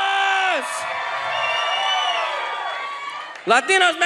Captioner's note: audience cheers